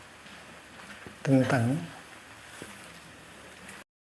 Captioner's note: <i>Vietnamese</i>